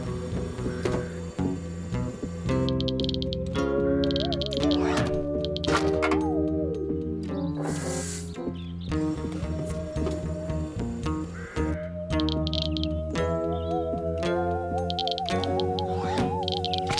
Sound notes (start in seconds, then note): 2.6 clicking; 12.2 clicking